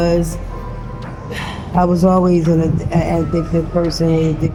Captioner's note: sighs